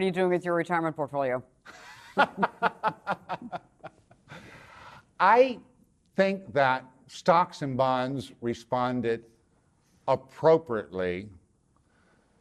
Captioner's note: laughs